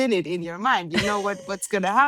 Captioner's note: laughs